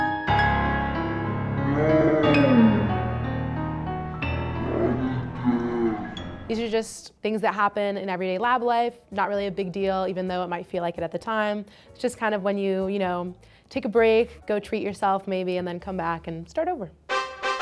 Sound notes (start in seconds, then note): 0.0 tragic music; 1.5 sounds of despair